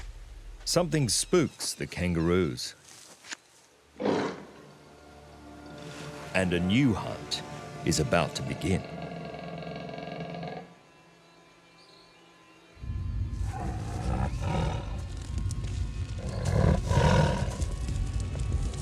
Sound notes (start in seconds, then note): 4.0 animal growls; 12.5 suspenseful music; 13.4 animal growling; 17.3 thrilling music